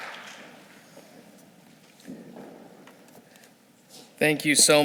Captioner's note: shuffling